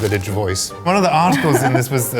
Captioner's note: laughing